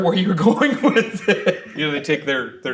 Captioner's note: chuckling